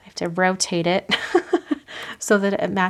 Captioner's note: laughs